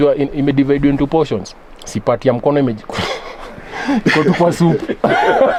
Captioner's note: laughs